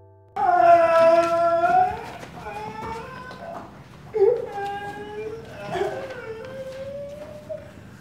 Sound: crying

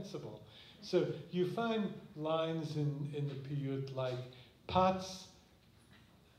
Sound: non-english

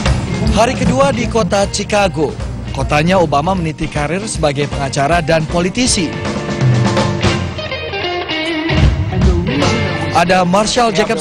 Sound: non-english speech

